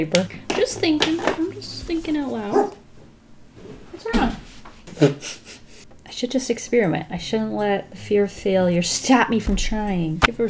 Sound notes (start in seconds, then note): 2.5 dog Barks; 4.8 laughs